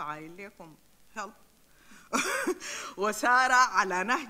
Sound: chuckles; speaks in foreign language

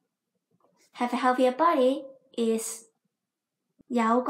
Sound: in Cantonese

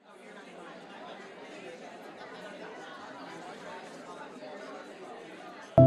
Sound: indistinct audience chattering

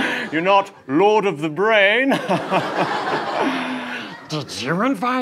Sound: laughs

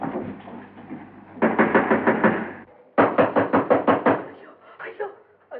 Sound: knock On Door

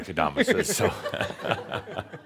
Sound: they chuckle

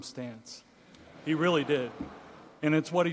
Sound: audience laughing

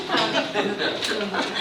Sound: laughing

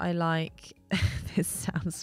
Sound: laughs

